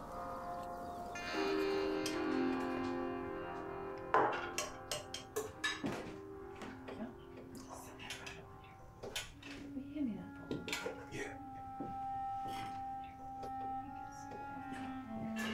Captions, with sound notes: (dishes clinking) - Can you hand me that bowl right there? - Yeah.